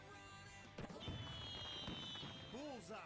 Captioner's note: fireworks popping